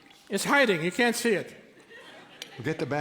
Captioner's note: laughter